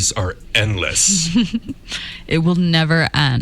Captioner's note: giggles